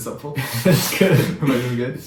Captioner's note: laughs